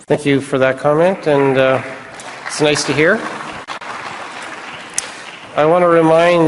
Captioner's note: applause